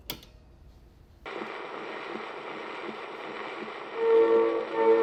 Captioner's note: static crackling